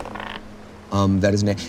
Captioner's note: dice taps